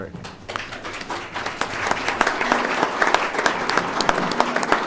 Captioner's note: audience applauds